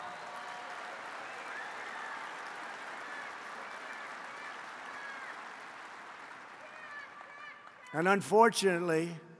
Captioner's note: applause